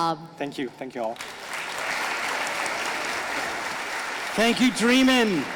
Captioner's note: audience applauding